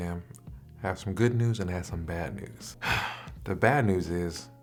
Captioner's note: sigh